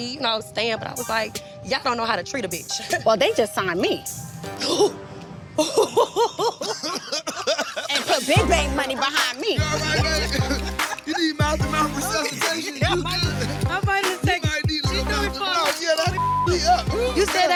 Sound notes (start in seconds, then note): 2.9 laughs; 4.1 tense hip-hop music; 5.6 laughing; 9.0 thumping hip-hop music; 10.7 people laughing; 15.0 people speaking indistinct